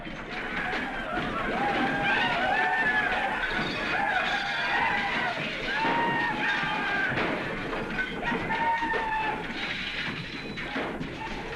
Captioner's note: whooping continues